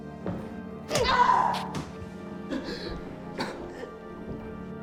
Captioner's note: Miss. Fang screaming